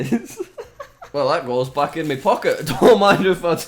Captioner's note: laughs